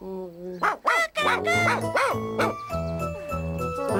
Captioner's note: barks